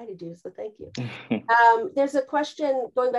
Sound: chuckles

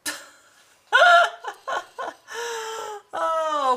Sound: laughs

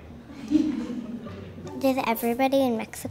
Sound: laughing

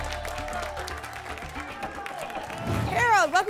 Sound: applause and cheering cont

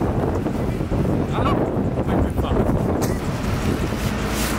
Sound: wind blowing

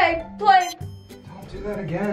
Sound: machine beeps

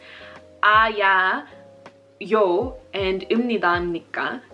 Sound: speaking Korean

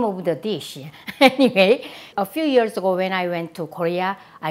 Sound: laughs

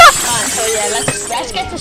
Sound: crash!!

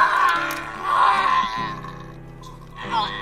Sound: screaming gets worse; screaming dies down

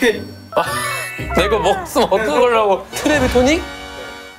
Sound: fussing

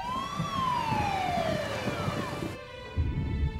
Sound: sirens wailing

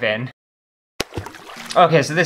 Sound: plop!

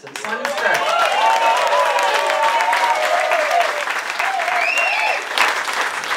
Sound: applause and cheering

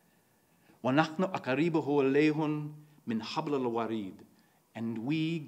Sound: speaks in foreign language

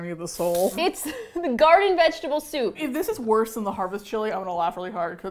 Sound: laughs

